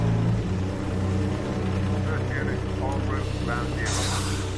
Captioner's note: man over radio